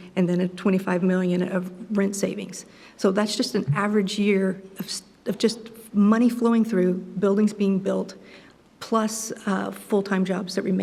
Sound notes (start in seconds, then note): none